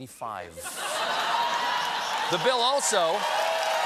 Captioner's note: laughter; applause